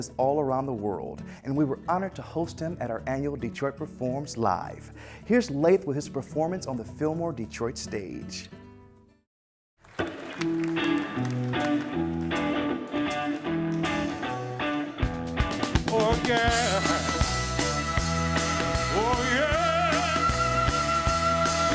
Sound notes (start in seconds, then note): 9.8 clapping; 10.4 electric guitar and drums